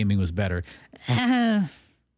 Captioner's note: laughs